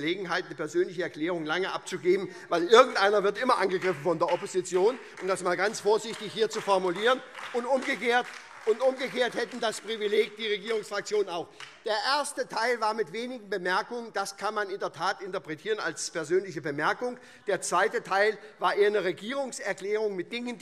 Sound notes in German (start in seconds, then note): 7.4 Beifall SPD, Freie Demokraten und DIE LINKE